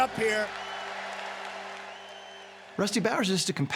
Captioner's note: cheers and applause